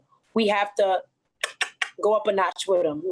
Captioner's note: clucks